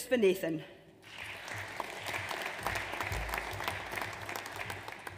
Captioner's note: audience applauds